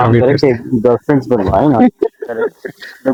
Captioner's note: laughter